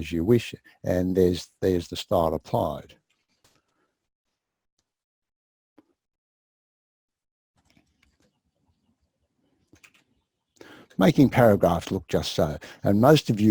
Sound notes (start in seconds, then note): 3.9 pause